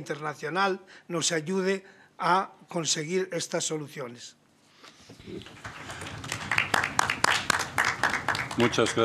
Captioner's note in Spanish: Aplausos